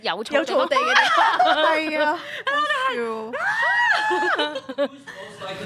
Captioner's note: screaming